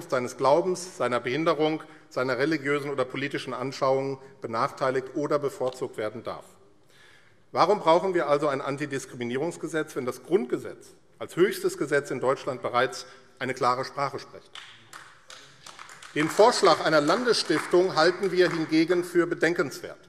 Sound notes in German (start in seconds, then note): 14.5 Beifall AfD